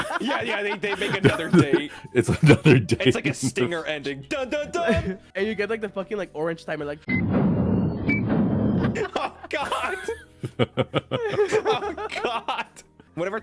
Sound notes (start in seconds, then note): 3.0 giggling; 7.1 count down timer from 24; 10.4 giggling